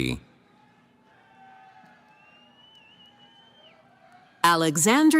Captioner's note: cheering